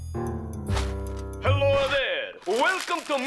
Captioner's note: Italian accent